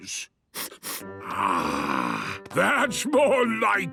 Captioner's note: sniffs